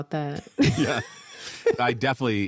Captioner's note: laughter